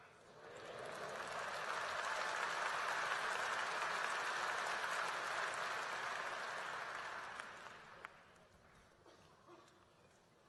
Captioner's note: applause